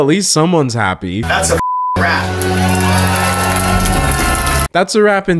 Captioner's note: beep